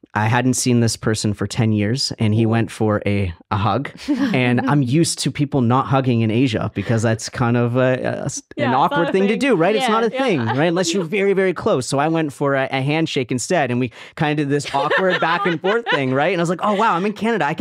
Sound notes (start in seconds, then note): 3.9 laughign